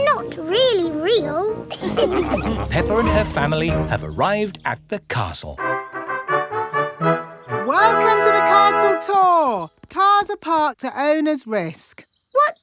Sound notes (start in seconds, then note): 1.7 all laughing; 5.6 fanfare playing